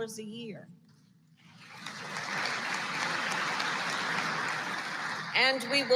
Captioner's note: applause